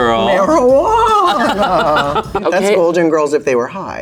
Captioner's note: both laugh